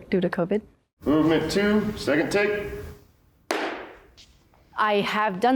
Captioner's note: claps